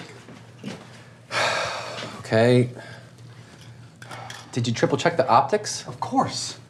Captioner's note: sighs